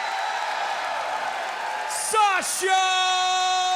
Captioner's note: crowd cheering